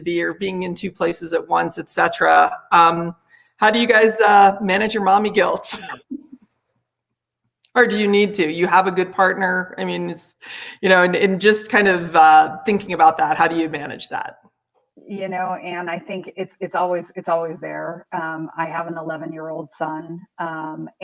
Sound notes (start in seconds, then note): 5.7 laughs